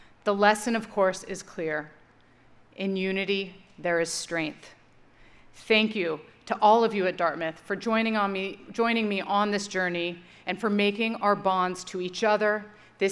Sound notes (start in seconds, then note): none